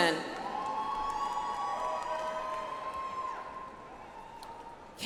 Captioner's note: audience applauds